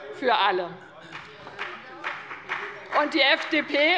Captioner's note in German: Beifall bei dem BÜNDNIS 90/DIE GRÜNEN und der CDU